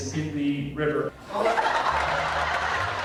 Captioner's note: laughter from audience